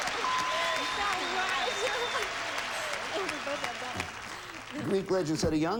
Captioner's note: audience applauding